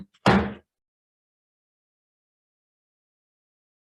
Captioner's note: gavel thuds